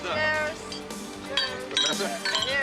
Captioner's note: glasses clinking